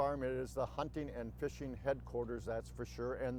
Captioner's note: none